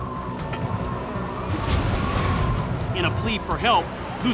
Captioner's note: wind blowing